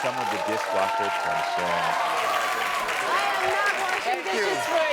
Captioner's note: audience applaud